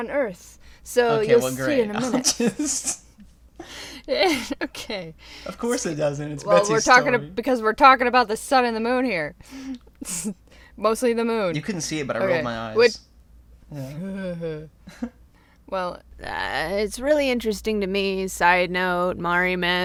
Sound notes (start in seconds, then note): 1.9 laughter